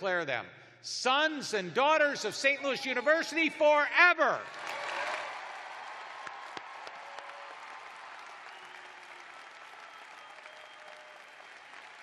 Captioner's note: cheers and applause